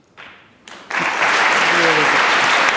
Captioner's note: applause